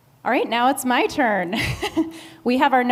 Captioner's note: laughs